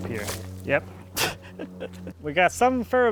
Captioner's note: laughs